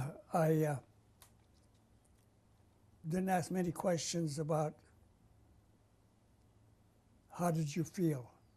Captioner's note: pauses for 3 seconds